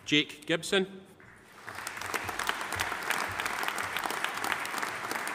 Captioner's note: audience applauding